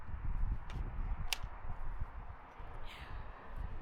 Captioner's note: wind